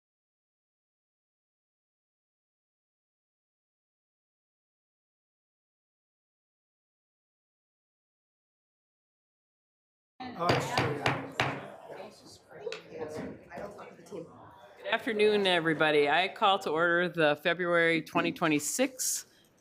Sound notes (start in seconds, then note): 10.4 gavel